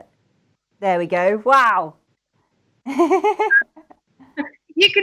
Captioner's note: laughs